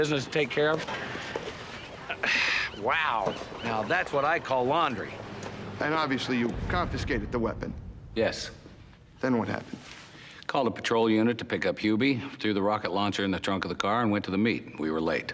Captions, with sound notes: because we got a little police business to take care of. (sighing) Wow! Now, that's what I call laundry. - And obviously you confiscated the weapon. - Yes. - Then what happened? - Called a patrol unit to pick up Hubie, threw the rocket launcher in the trunk of the car, and went to the meet.